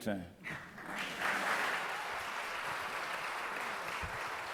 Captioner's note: audience applause